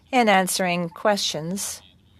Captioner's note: speaking French